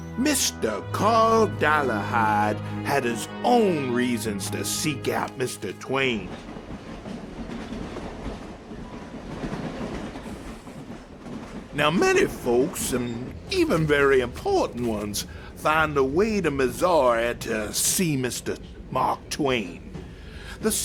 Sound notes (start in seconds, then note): 7.5 train rumbling